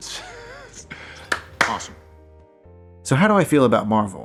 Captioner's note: claps